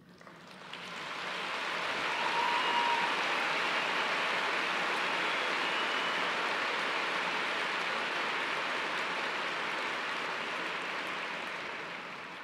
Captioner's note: applause